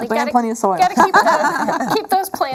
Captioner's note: laughing